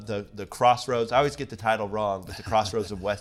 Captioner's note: chuckles